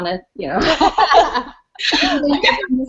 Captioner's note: laughter